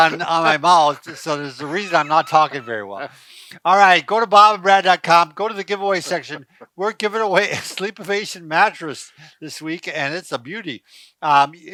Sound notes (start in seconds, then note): 2.6 laughs